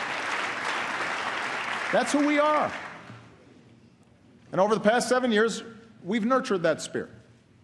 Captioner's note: applause